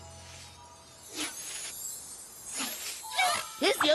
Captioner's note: tinkling; zing!